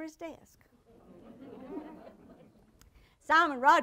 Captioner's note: audience laughter